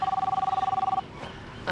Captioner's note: phone ringing